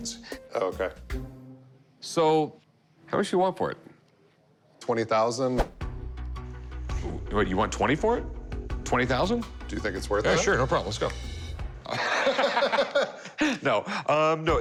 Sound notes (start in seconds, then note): 11.8 laughter